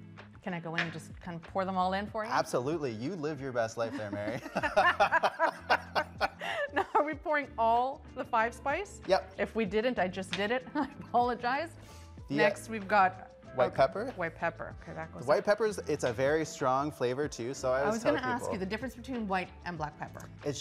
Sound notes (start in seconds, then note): 3.8 both laughing